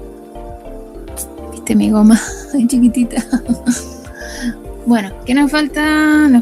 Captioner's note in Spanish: risas